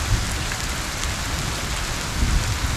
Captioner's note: rain